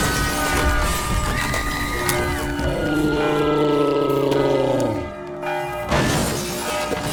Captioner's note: demonic roar